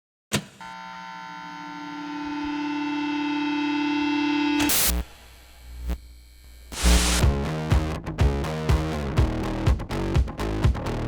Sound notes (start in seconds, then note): 0.6 electronics buzzing; 6.8 upbeat music